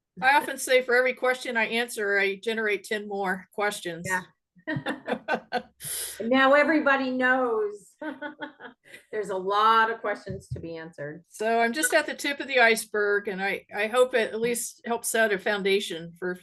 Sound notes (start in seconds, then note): 4.6 speakers chuckling; 8.1 chuckles